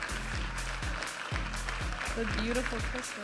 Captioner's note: audience applauding and cheering